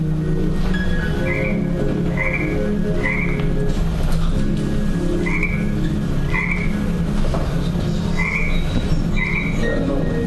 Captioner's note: frog croaking while music plays